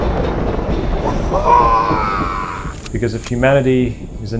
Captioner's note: the tide pool screams